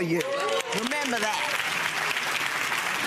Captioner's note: audience clapping